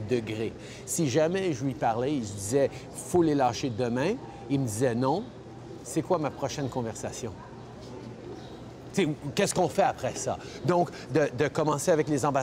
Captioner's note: speaking French